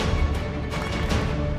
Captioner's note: Clapping